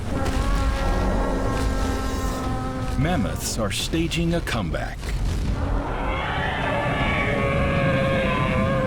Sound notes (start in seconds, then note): 0.0 trumpets; 5.4 mammoths call